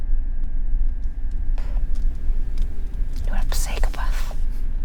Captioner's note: car engine revving